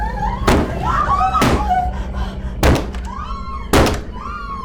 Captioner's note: Brad growling; banging on door continues; both shrieking